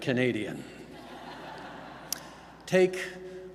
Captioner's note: laughter